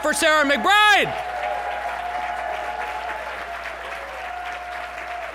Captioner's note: cheering and applause